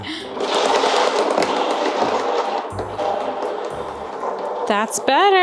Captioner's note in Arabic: خشخشة العجلة بصخب